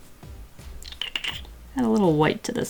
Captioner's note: mouth clicking thinking sounds